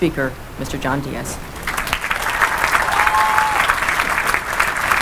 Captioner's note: applause